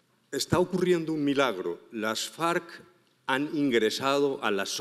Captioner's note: speaking in foreign language